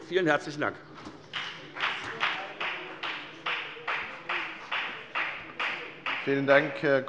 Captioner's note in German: Beifall bei der : Was für eine Logik!